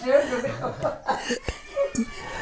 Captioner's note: laughing